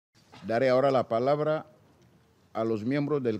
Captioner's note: in Spanish